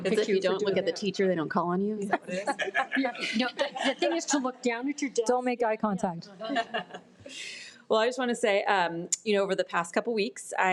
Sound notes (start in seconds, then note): 6.4 board members chuckle